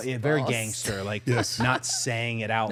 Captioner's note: participant laughing